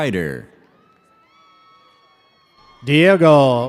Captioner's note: audience cheers